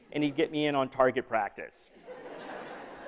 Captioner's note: laughter